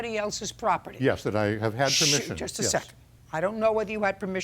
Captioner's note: shushing